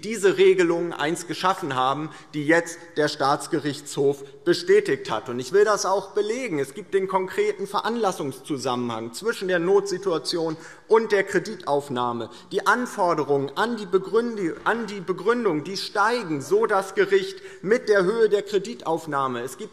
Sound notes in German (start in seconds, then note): none